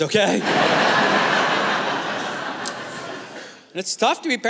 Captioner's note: laughter